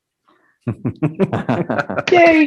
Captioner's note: group laughing